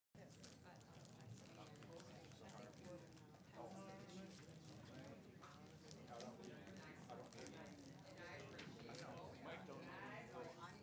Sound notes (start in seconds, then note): 3.7 people murmuring softly